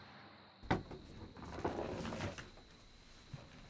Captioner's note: crickets chirping